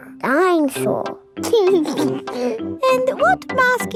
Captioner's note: giggles